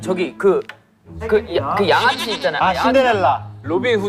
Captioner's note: mispronunciation